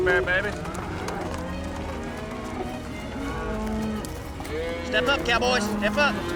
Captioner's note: cattle moo